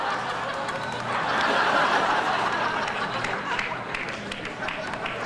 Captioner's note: audience laughs